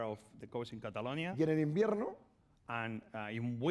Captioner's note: speaking spanish